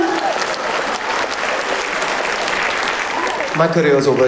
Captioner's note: audience claps